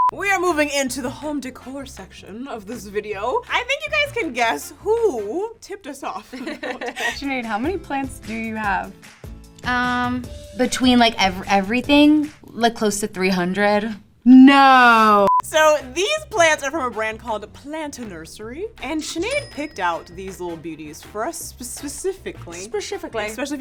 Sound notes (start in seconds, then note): 6.2 both laugh